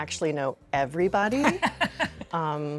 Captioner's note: laughing